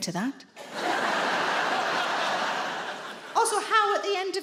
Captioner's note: audience laughing